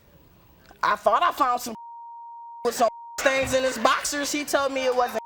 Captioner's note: beep